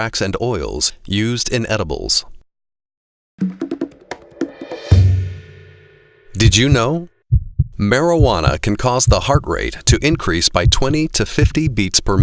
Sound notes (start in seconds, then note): 6.3 sound of heartbeat beating slowly at first, then faster